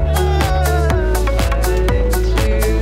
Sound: ambient music; burbles and giggles

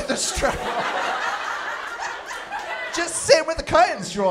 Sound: laughter

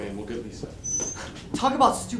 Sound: hanger squeaks

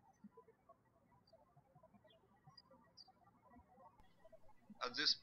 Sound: birds chirping

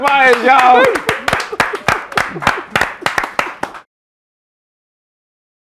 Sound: applause

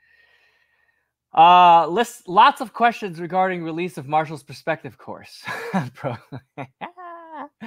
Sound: laughs

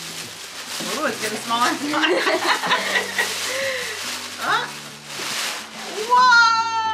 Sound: laughs

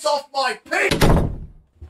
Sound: door closes

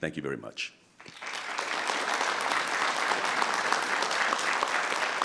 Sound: audience clapping

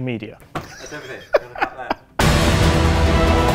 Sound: laughter; epic music

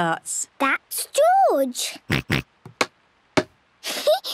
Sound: snorts; giggles

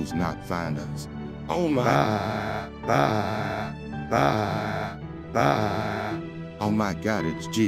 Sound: Zelenskyy Yelling

